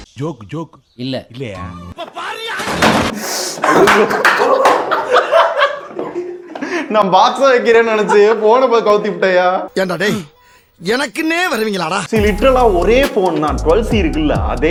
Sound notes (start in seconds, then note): 3.6 laughing